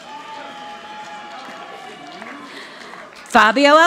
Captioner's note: audience applauding